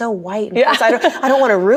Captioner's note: laughs